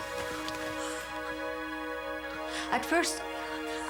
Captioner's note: gasps